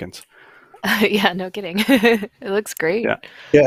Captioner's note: laughs